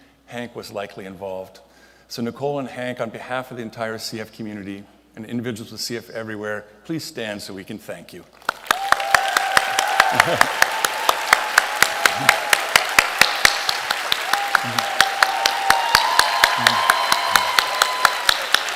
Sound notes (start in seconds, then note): 8.7 applause, cheering